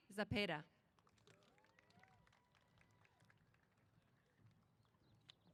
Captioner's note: applause